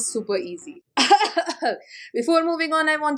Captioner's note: coughs